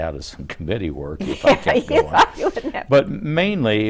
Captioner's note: laughs